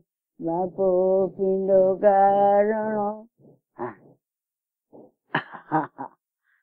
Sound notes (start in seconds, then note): 5.3 interviewee giggles